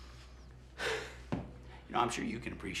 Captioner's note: Tyler exhales; Ben gasps